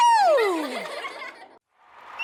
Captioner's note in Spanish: risas